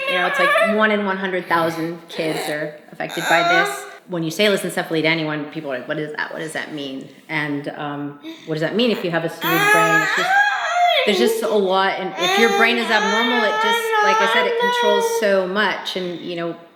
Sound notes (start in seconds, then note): 3.0 murmuring; 11.3 shouting